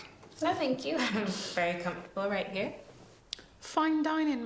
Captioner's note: laughs